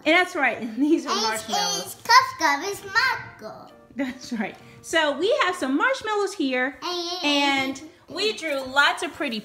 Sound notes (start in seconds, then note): 0.3 voiceover; 3.7 voiceover